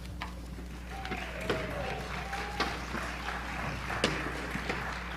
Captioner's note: audience claps